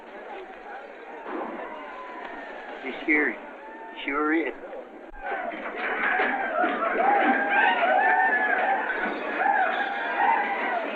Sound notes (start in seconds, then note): 5.1 yelling and gunshots